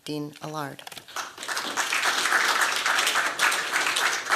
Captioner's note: applause